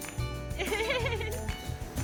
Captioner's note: 웃음